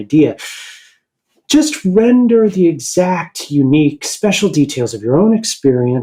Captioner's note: sharp inhale